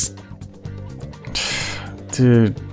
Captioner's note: exhale